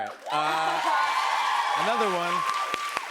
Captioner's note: cheers and applause